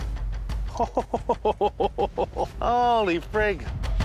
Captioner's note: laughing